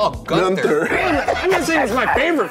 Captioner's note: laughs